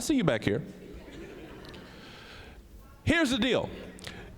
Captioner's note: audience chuckling